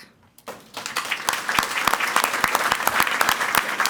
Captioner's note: people clapping